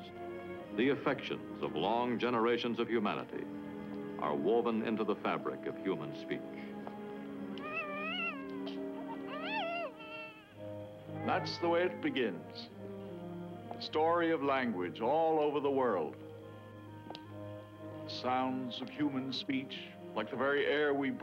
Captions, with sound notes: of long generations of humanity, are woven into the fabric of human speech. [baby cooing] That's the way it begins. The story of language all over the world, the sounds of human speech like the very air we breathe,